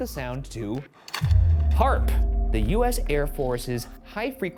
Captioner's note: slide projector clicks